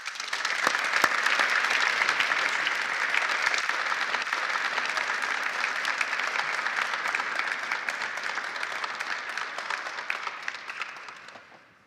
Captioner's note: applause